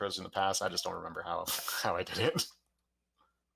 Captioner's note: laughs